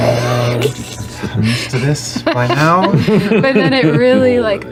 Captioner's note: guttural growls; sighs; laughs